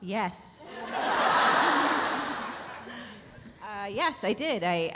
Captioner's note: audience laughs